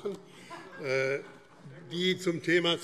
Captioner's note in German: Heiterkeit - Zuruf: Sehr gut!